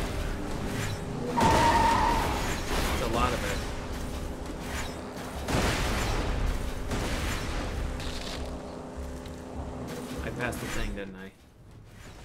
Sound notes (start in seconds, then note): 8.4 loud car noises